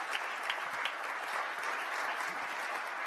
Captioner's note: applause